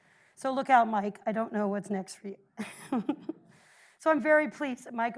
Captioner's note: chuckles